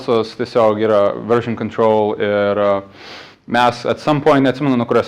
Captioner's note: sniff